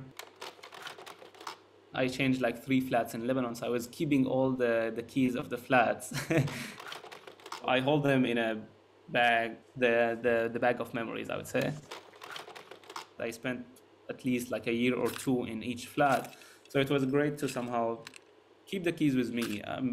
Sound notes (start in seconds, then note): 0.0 slide projector clicks; 6.2 laughs; 6.7 slide projector clicks; 11.6 slide projector clicks